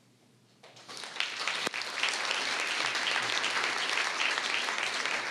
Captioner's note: audience applauding